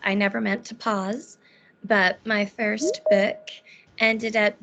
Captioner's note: beeping